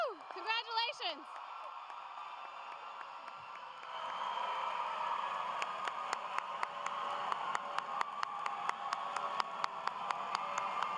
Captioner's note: cheers and applause